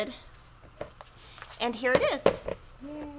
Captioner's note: montage thudding